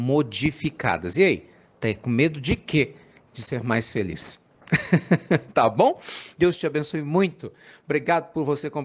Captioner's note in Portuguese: Risos